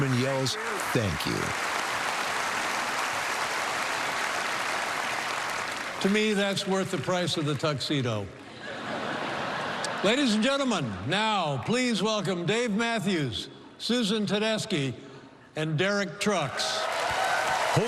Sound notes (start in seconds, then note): 8.5 laughter